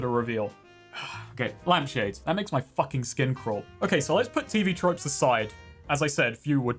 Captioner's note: sigh